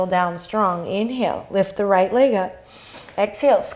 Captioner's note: inhale